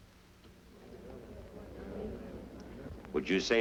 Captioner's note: crowd murmurs